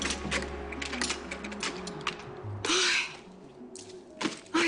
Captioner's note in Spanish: Ruido al cerrar con los cerrojos